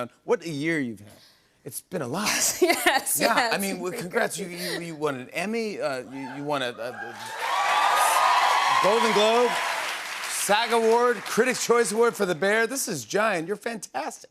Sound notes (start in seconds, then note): 2.4 laughs; 6.9 cheers and applause